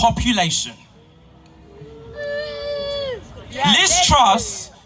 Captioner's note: boos from the crowd